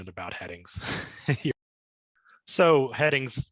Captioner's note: laughs